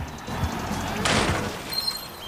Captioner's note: crash